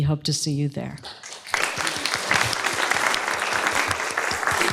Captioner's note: applause